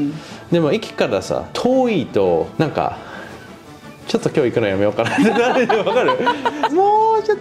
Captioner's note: laughs